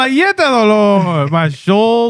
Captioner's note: speaking In Foreign Language